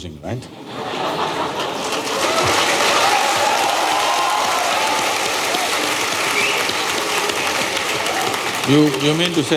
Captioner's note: cheers/Laughter/Applause